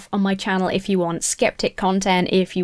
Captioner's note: none